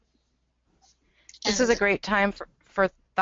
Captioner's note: voiceover